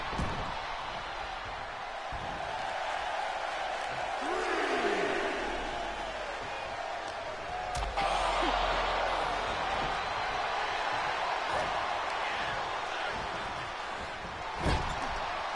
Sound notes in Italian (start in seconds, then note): 5.8 Applauso